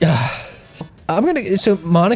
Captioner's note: sighs; pat